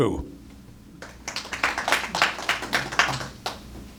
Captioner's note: applause